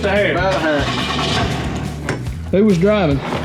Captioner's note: engine starts